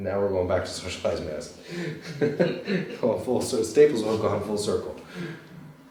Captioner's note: laughter